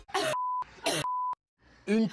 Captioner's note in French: tousser; bip